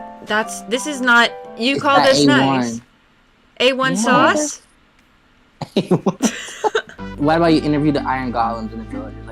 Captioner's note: laughing